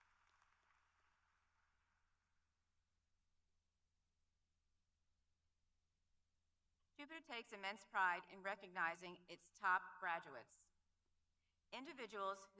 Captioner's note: applause